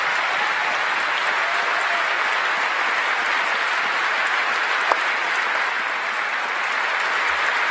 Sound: applause

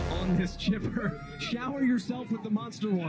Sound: laughs

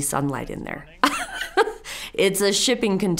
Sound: chuckles

